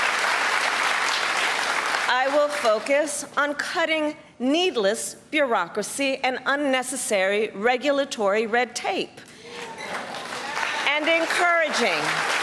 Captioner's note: applause